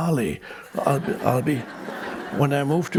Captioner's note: people laughing